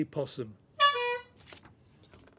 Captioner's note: honk